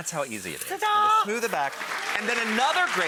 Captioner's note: audience clapping